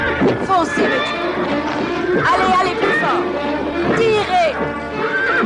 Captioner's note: horses Whinnying